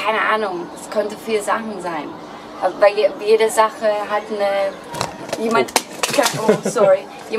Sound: recorder falls on the ground

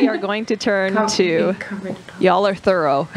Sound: giggles

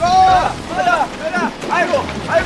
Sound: running

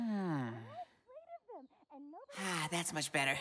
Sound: sighing; voice is muffled

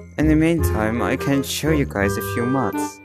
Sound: none

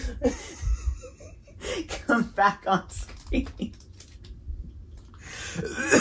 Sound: both laughing; gagging and coughing

